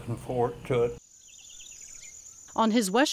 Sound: birds chirping

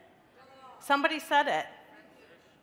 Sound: crowd

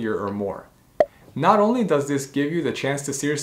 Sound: bubble popping

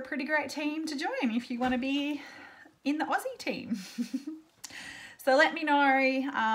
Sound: laughs

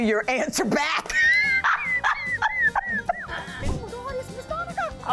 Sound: laughter

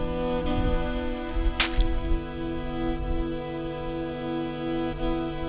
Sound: oyster shells clatter; solemn music continues

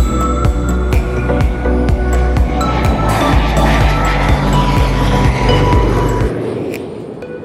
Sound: for sale music; sound of another Pilatus PC-12 low pass

